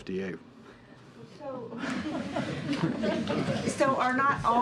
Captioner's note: laughter